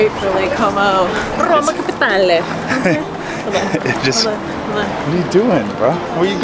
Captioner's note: speaks Italian